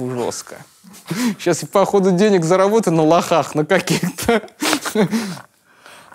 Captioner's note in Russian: смеется